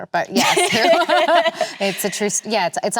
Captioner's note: both laughing